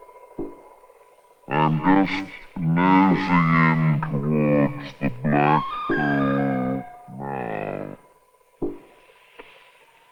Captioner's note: distorted speech